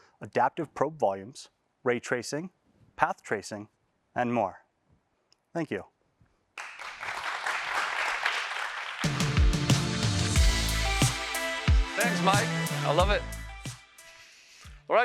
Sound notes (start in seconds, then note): 6.5 applause; 9.0 electronic music playing